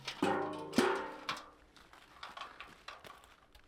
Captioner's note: bucket shuffling